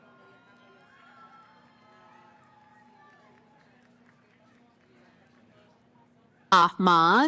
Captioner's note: cheering